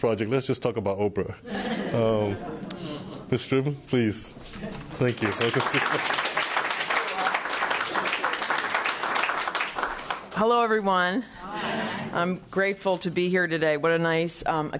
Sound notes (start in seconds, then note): 5.0 applause